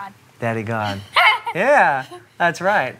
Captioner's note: laughs